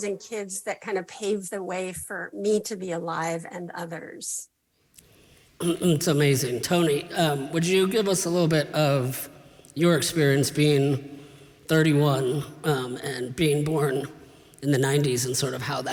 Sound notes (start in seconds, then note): 5.6 clears throat